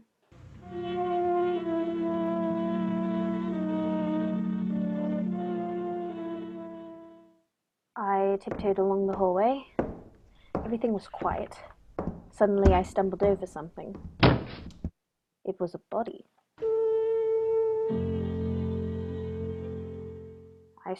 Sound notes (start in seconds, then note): 1.4 musical accent; 8.4 footsteps on wood; 14.0 shuffle of footsteps; 17.8 musical accent